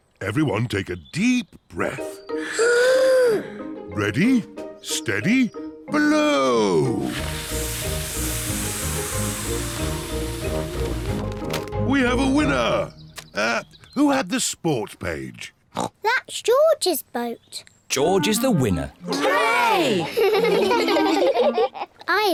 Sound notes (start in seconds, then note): 2.4 all inhale; 7.0 all blow; 19.9 giggle